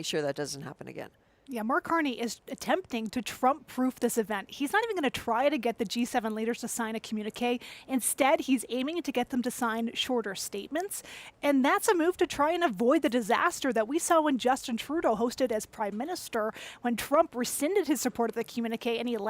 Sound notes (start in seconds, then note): none